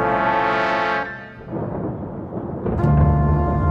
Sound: dramatic music; rolling thunder

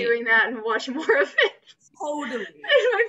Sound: laughs

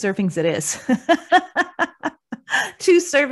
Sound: laughs

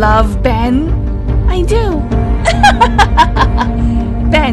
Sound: laugh

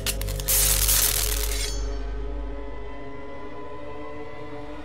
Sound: sparks zap

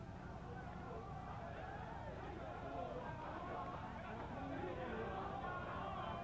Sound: crowd chanting

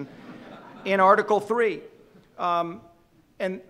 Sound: audience laughing

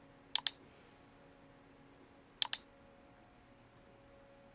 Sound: mouse clicking

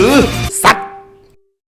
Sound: sound alert from phone

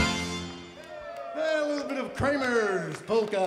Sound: crowd applauds

